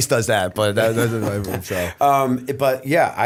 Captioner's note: laughter